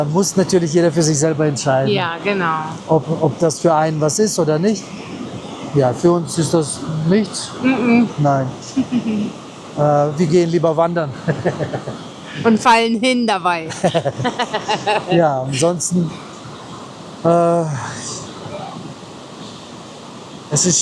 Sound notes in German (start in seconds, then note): 13.6 gelächter